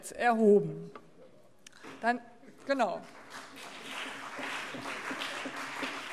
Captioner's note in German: Beifall CDU und BÜNDNIS 90/DIE GRÜNEN